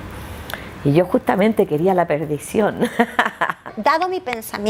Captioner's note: laughs